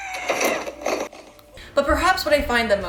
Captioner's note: screaming